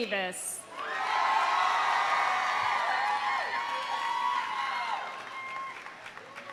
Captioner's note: audience applauding; audience cheering